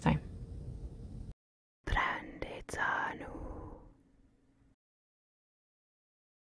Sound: whispering in Madovna

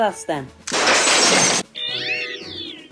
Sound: breaking Building Noises

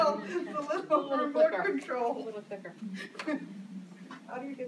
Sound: laughs

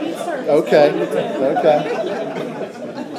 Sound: laughter

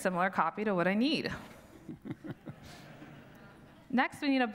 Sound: audience laughs; laughs

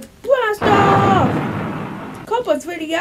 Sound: rocketing noises

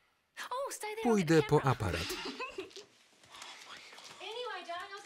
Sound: both laugh loudly

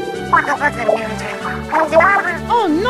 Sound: Inkling gibberish

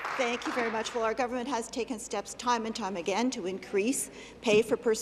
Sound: applause

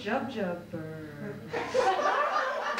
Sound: laughter

